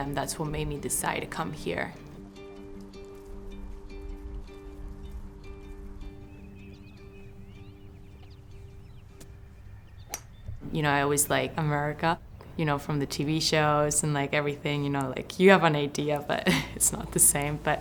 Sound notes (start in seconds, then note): 6.7 birds chirp; 10.0 golf club strikes ball